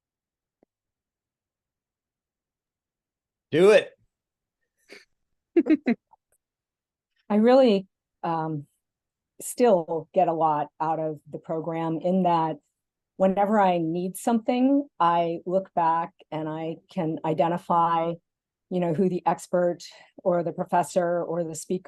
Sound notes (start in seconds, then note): 5.6 laugh